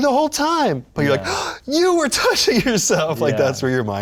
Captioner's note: gasps